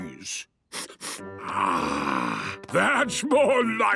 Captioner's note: sniffs